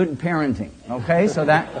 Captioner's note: laughter